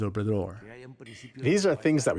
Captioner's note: through translator